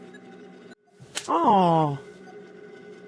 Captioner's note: groan